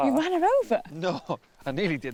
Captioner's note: laughing